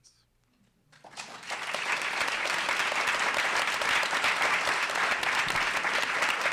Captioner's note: applause